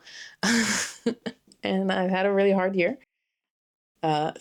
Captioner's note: laughs